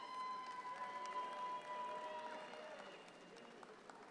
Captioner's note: audience cheer